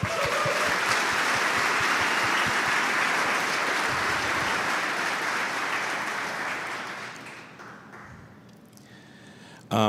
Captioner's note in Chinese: Applause; 掌声